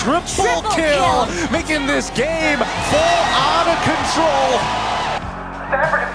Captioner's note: crowd cheering, applauding